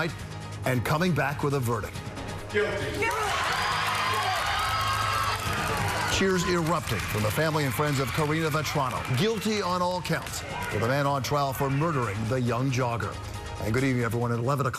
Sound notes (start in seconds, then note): 7.6 cheering